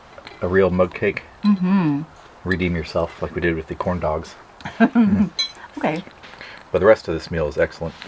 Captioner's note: chuckle